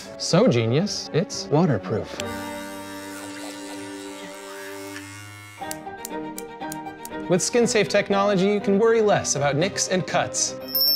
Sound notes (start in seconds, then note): 2.2 razor buzzing; 2.5 classical music; 10.6 trophy ringing